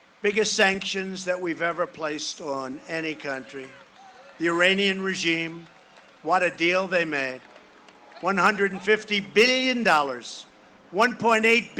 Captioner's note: cheering and applause